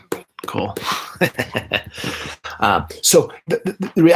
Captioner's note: laughing